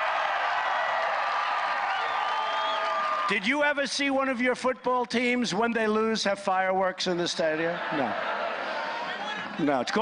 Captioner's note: applause